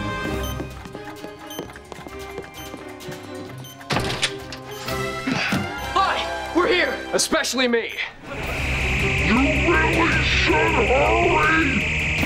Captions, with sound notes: [beeping] - All right, we're here. - Especially me. [slow-mo voice] You really should hurry!